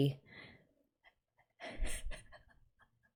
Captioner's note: laughs